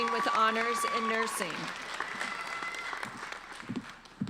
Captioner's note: applauding